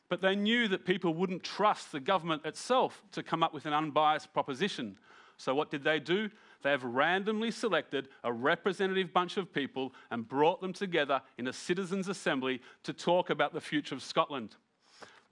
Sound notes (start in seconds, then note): none